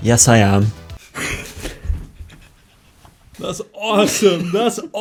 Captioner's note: both laughing